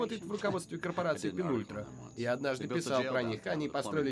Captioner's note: chuckles